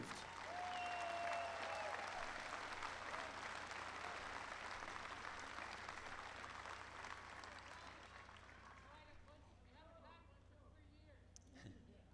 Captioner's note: applause